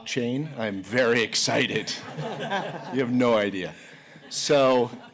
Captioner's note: laughter